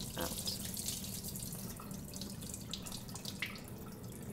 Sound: water trickling

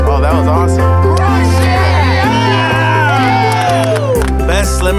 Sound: cheering

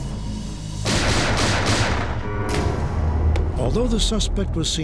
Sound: gunfire

